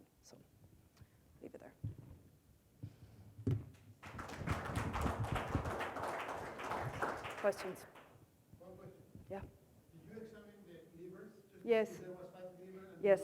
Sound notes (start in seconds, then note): 4.0 audience applauds